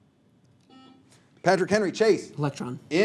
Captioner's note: buzzer sounds